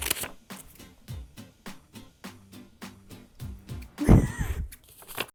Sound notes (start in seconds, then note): 0.0 scissors snapping; 4.0 laughing